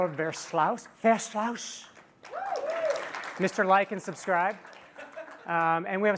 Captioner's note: applause